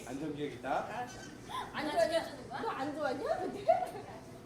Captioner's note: speaks Korean